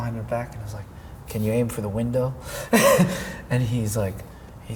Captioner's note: laughs